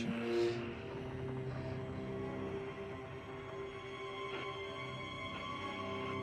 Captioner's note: pensive music; radio static crackling